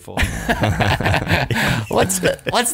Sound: laughing

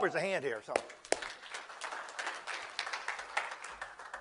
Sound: crowd applause

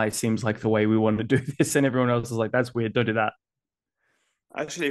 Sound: chuckles

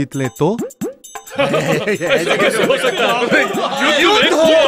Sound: laughs

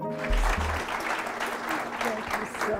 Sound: applause

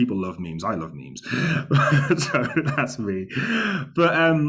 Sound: laughs

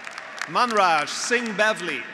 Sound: graduates applauding

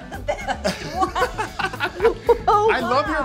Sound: laughing

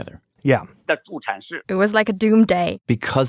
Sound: speaking Mandarin

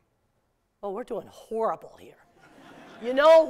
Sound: laughter

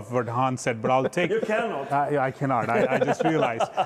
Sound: chuckles

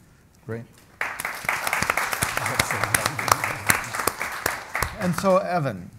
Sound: audience and panel applaud

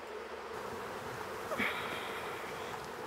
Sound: she groans

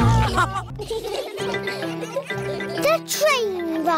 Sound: laughter

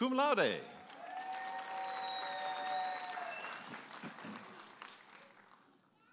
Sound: audience applauding and cheering

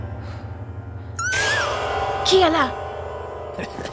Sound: squeak

